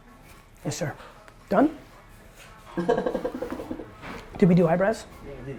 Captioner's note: laughs